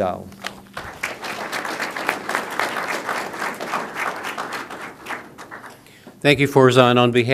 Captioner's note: applause